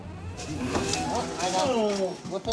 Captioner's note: chatter